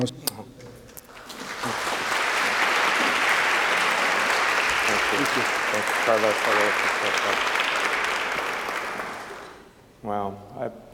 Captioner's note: applause